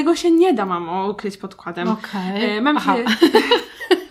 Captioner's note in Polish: Weszły sobie w słowo i się zaśmiały